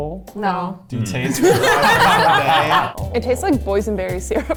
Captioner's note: all laugh